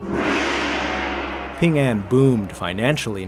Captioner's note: gong ringing